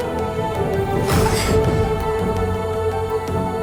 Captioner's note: gasps